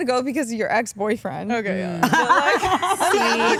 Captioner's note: all laugh